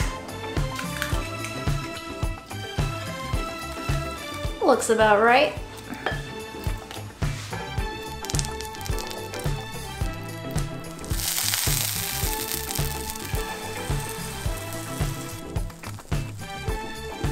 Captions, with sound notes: Looks about right (upbeat music) (pan sizzling) (upbeat music)